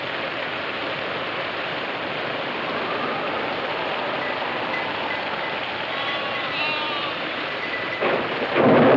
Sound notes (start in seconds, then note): 5.9 lambs bleating